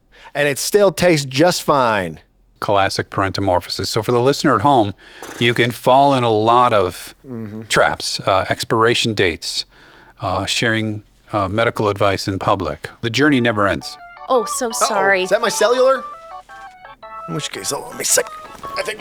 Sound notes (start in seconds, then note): 13.3 cellphone ringtone playing